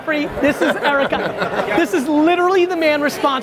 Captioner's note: laughter